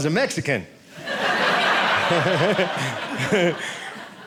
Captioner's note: audience laughing